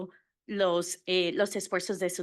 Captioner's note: Spanish